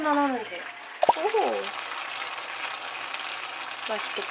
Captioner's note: stew is boiling